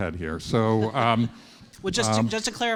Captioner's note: students laughing